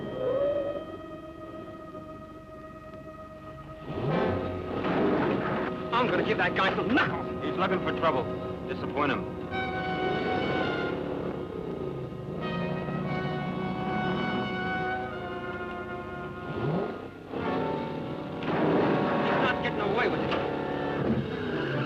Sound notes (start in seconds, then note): 0.2 brakes squealing; 3.9 engine revving; 4.9 cars thudding; 16.6 engine revving; 18.5 cars thudding; 21.6 tires screeching